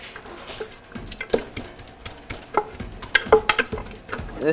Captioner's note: sound of the mortar and pestle